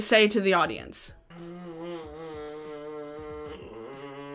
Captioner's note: humming